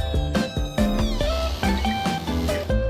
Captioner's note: creaking door